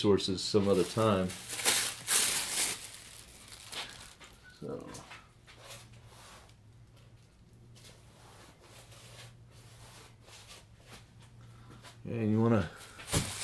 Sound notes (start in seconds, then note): 0.7 sounds of papers crumbling and tearing